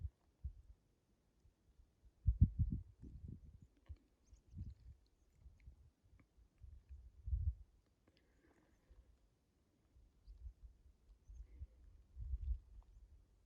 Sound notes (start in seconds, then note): 6.4 wind noises and birds tweeting in the distance